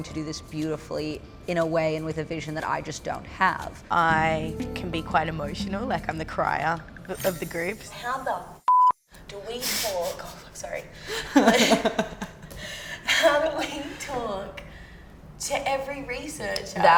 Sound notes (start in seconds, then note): 8.6 beep; 11.1 laughter